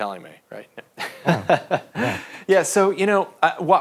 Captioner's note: both laughing